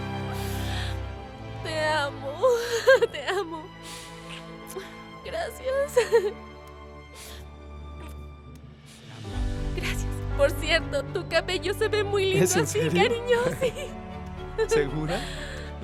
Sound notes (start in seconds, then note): 1.8 Sollozando; 12.3 Caridad ríe